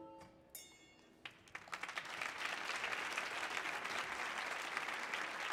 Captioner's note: audience applauding